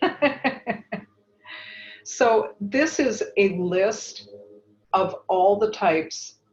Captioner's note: laugh